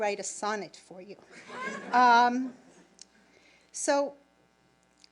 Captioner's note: audience laughing